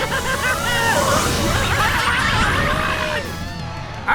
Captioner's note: yelling